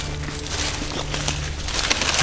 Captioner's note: sound of walking